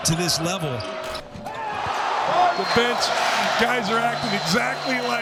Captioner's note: people cheers